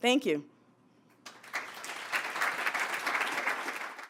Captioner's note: applause